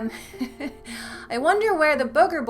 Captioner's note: giggle